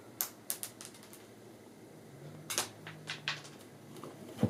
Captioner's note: treat clatters